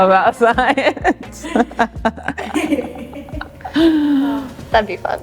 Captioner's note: all laughing